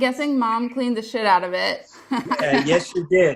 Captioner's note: laughs